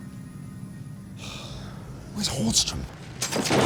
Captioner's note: sighs; object clanking